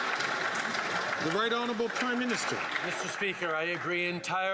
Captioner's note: some Applause